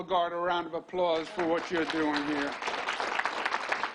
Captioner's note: applause